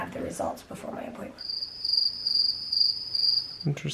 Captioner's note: crickets chirping